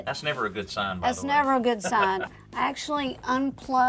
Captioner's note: chuckles